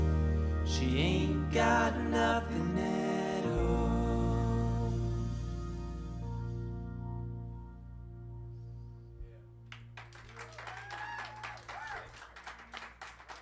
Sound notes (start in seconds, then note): 9.7 cheers and applause